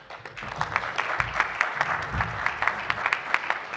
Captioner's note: applause